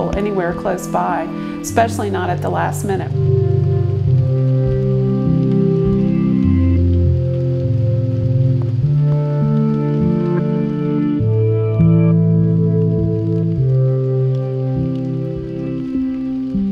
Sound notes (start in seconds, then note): 3.9 somber music; 5.7 rain pattering